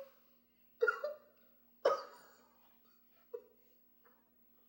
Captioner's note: sobbing